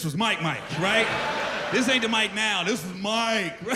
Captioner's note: laughter